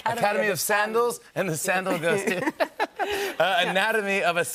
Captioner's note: laughter